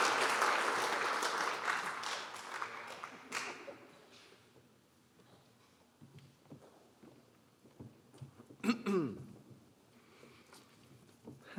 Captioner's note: applause